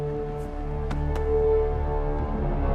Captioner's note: slaps leg